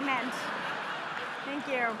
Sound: laughter

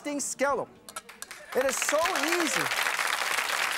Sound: audience applause

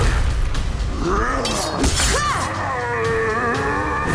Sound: grunting; screaming

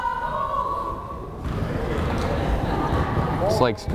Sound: crowd chattering

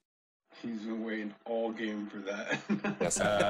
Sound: chuckling

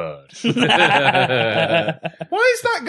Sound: laughter

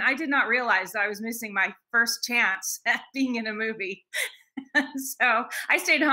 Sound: laughing

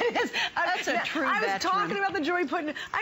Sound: laughter

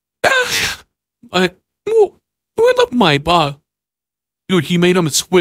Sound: wheeze!

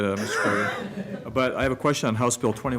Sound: laughter

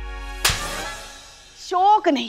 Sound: slaps

